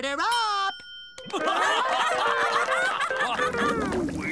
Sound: laughing

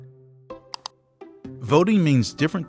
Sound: click

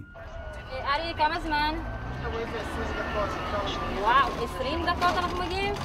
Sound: speaks foreign language

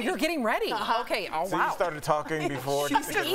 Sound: laughter

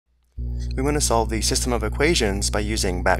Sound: voiceover

